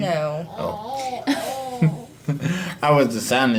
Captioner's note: laughs